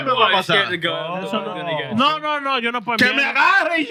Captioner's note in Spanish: Hablando en idioma extranjero